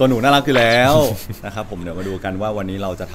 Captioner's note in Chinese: 微笑和大笑